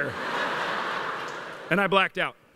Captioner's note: laughter